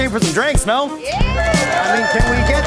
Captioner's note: cheers